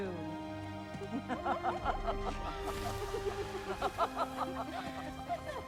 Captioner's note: laughing